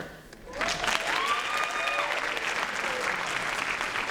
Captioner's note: applause